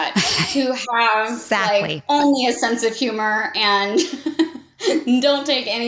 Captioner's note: laughs